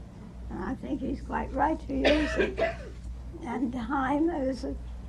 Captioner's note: coughing in background